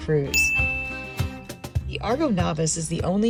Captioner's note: bell dings